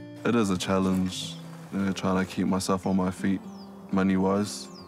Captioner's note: speaking in Māori